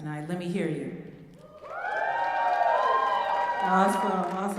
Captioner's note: applause